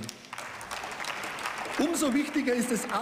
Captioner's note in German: Beifall